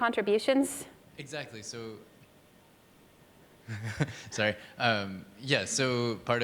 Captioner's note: laughs